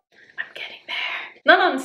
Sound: whispering

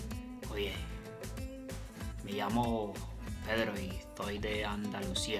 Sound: speaking in foreign language

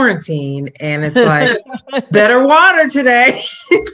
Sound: laughs

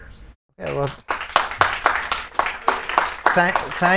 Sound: attendees clapping

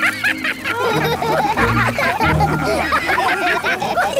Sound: all laugh

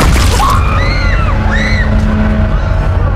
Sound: startled scream

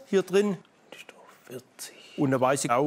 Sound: he whispers

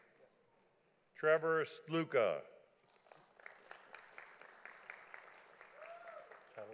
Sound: audience applauding

